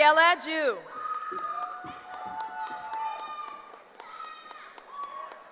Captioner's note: cheering